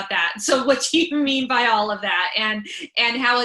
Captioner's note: laughing